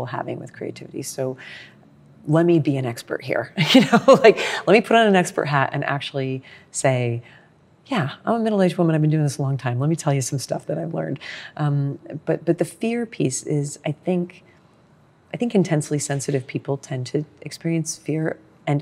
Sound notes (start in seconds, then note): 4.0 laughs